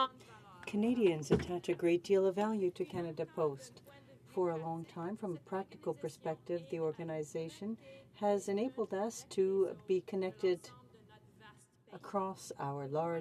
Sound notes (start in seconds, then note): 5.9 speaking french